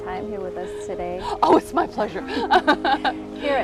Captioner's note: laughs